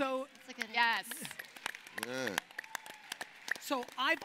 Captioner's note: applauding